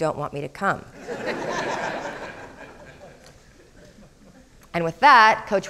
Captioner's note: crowd laughing